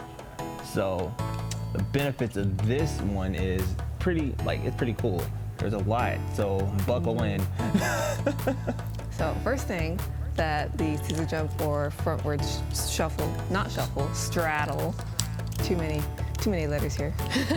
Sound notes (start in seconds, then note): 7.6 laughs; 17.2 both laugh